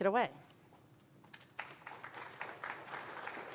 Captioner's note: applause